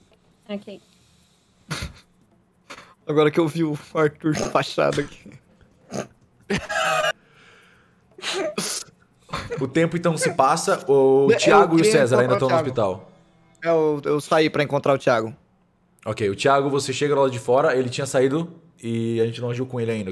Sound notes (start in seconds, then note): 5.8 laughter